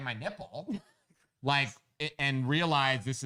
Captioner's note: laughs